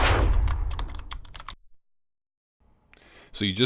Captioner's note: typing